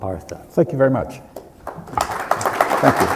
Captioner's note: applause